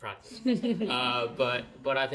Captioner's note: audience laughs